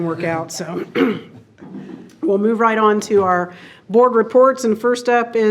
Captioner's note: clears throat